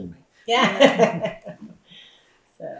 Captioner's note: laughs